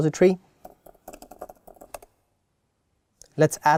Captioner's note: keyboard clicking